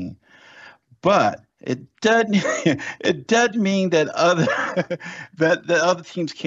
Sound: laughs

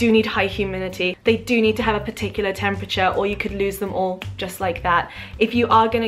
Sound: snap

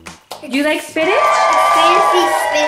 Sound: cheering

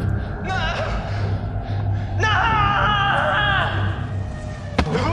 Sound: robin screaming

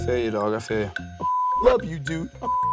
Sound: beep

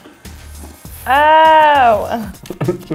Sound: slurping sounds

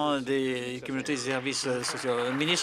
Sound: applause

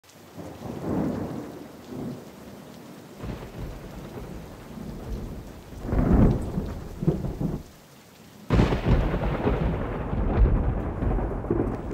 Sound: rain and thunder

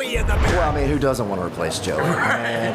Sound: laughter

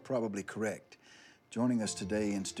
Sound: none

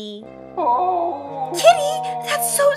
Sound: moaning sound

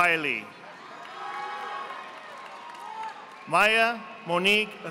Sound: audience applauding

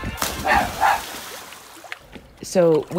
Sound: dog barking

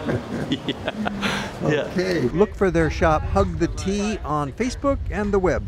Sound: laughter

